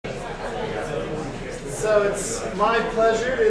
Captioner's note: buzz of audience chatting